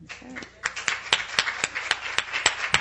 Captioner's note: applause